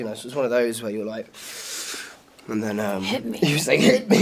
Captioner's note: Charlie inhales